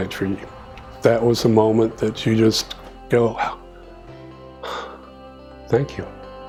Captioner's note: exhales deeply